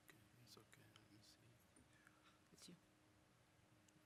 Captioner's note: whispering